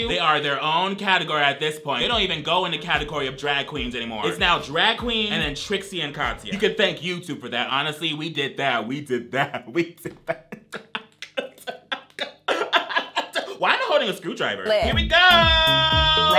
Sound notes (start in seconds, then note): 9.4 laughs